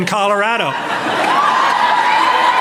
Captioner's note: laughter